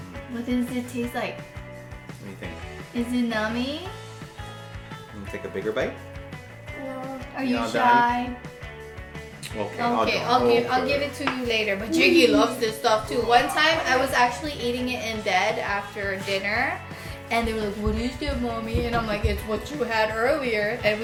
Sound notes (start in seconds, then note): 8.7 kisses